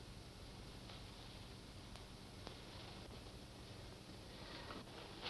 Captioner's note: none